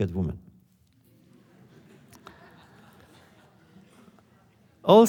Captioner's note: laughter